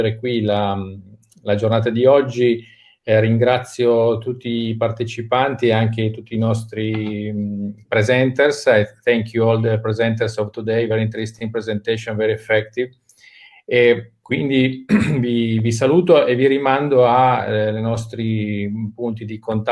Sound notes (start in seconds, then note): 14.2 speaking in foreign language